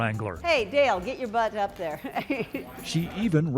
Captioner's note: laughs